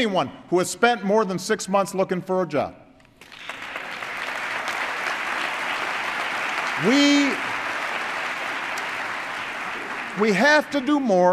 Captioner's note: applause